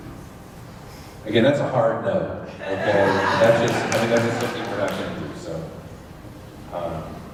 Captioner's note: laughter and applause